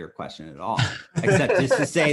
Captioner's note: laughs